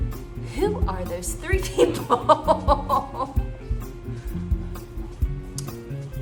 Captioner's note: laughter